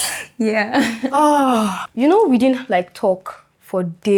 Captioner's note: laughs; sighs